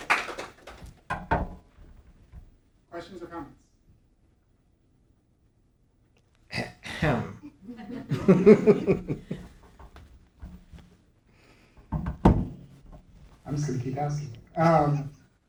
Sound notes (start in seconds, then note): 7.0 chuckles